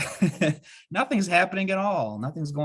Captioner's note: laughing